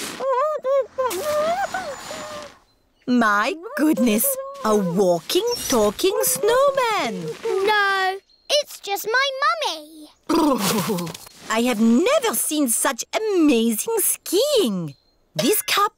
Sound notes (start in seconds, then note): 0.6 muffled groans